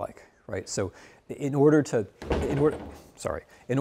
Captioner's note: foot bumping desk